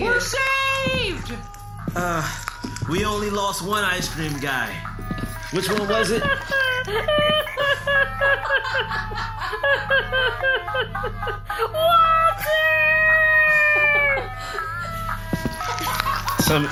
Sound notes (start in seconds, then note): 11.3 crying